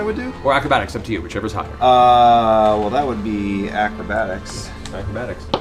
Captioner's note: none